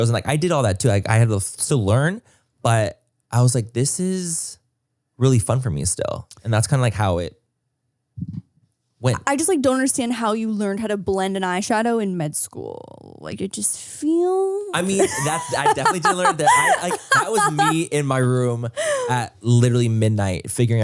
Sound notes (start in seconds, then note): 14.7 laughs